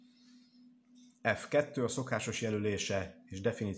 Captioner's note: Hungarian